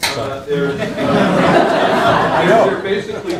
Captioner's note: laughter